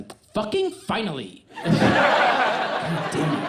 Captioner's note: audience laughs